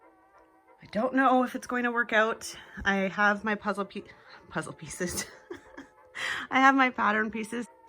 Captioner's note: laughs